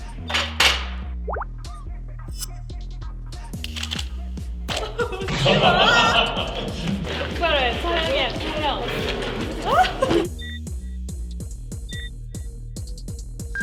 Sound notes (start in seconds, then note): 4.7 burst out in laughter; 9.5 laughing